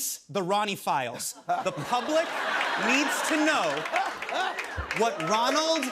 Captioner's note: laughter